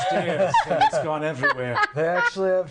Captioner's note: laughing